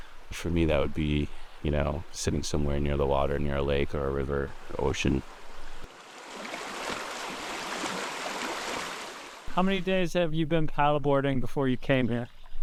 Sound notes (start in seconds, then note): 5.2 water sloshes